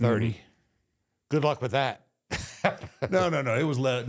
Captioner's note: laughs